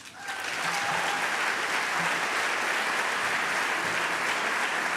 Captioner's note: applause